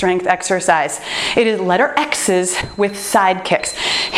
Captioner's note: timer beeps